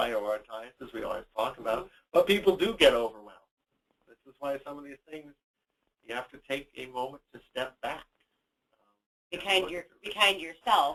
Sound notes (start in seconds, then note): none